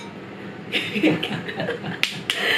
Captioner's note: laughs